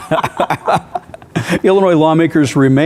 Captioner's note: laughing